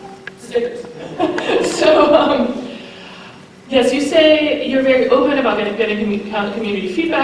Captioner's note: laughter